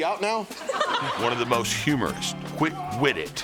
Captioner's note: laugh